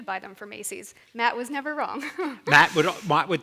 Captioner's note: chuckles